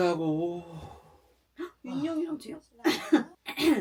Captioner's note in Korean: 사래 들림